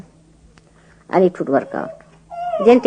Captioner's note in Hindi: baby starts crying; बच्चा रोने लगता है